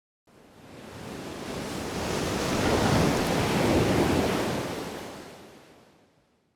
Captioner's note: waves crashing